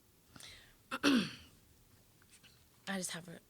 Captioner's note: clearing throat